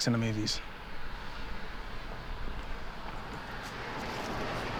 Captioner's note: birds chirping